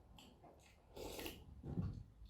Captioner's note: slurp